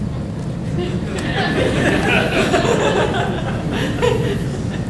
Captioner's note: audience laughing